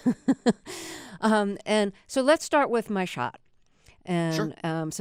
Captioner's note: laughter